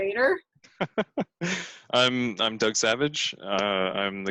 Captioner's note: laughs